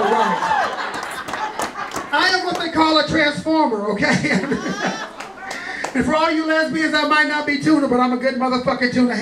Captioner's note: clapping; chuckling